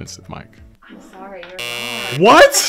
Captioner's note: text buzzes